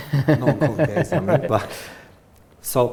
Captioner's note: laughs